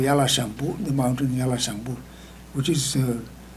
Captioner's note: speaking tibetan